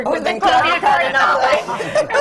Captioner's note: laughter